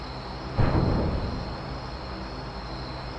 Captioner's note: bump